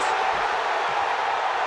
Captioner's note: crowd cheers